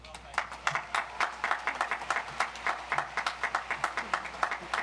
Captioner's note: audience applauds